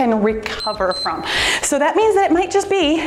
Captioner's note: timer beeps